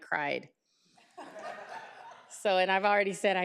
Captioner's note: group laughing